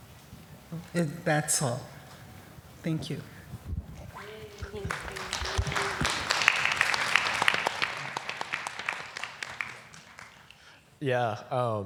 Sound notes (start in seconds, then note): 4.2 applause